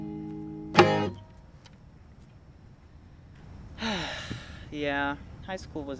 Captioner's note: sigh of exasperation